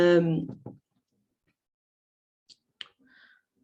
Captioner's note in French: silence